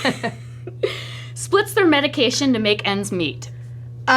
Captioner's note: laughs